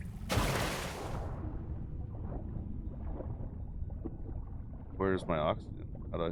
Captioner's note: fire crackles